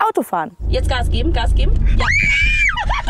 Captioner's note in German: Kreischen; Lachen